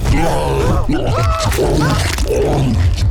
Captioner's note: chomps